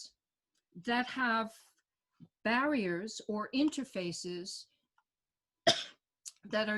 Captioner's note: coughs